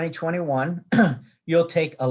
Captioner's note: clears throat